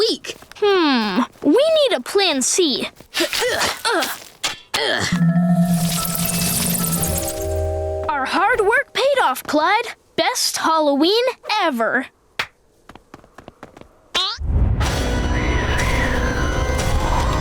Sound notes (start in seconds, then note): 2.9 grunting